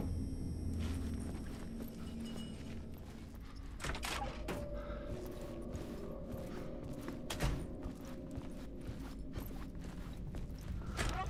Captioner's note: door opens